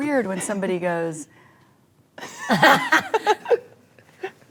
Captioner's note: ladies reacting